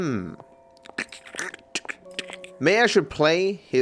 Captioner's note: imitates creaking muscle noises